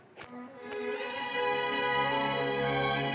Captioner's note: none